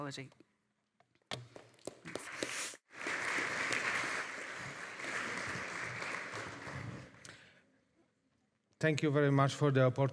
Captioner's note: audience applauding